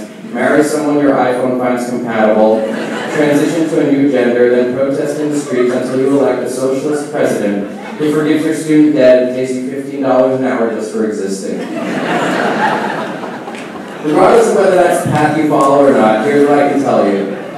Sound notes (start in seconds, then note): 11.6 laughing